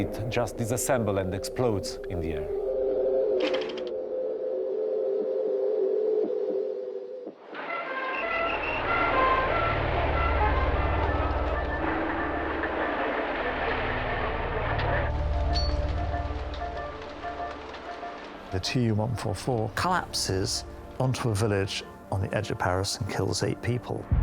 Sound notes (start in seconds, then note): 7.4 tense pensive music; 7.6 siren wailing